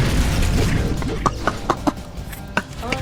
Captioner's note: laughs to myself